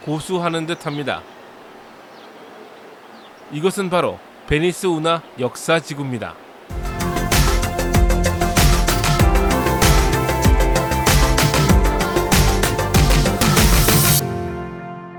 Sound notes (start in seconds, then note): 0.0 the sound of wind and birds; 6.7 opening Music